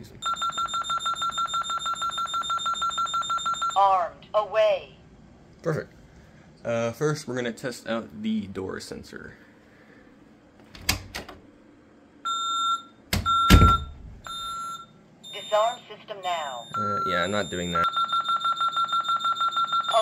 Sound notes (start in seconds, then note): 0.2 fast Beeping; 10.6 door opens; 13.1 door closes; 13.2 beep; 15.3 beep; 17.9 fast beeping